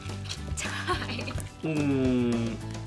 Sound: laughs

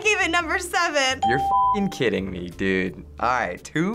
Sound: bell rings

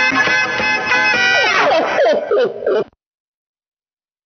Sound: laughing

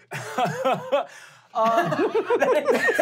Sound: laughing

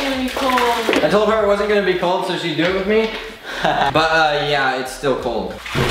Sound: haha

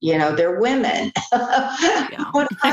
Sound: laughs

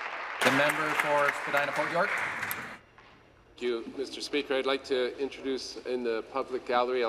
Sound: applause

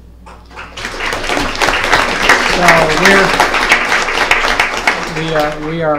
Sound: applause

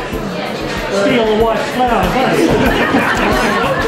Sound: laughter

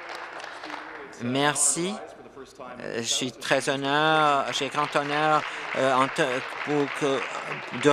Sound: applause

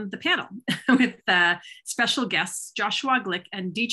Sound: chuckles

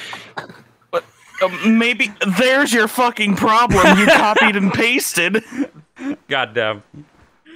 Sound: laughing

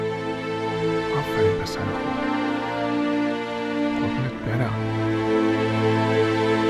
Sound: speaking in foreign language; dramatic orchestral music

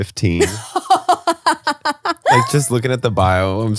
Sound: laughs

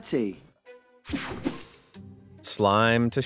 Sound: transition zapping

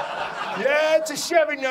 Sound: audience laughs

